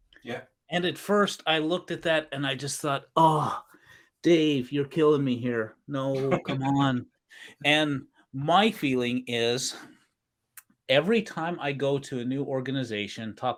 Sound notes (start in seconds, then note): 3.2 moaning; 6.1 laughing